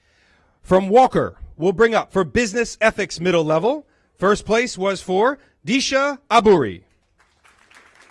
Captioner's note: applause